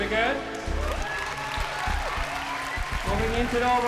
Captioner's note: cheering